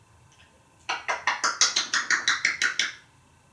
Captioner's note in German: smacking sounds